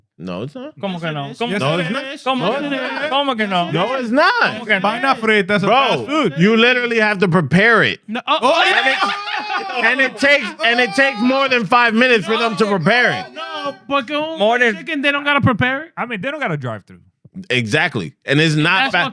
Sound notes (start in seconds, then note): 2.9 speaking In Foreign Language; 8.2 laughing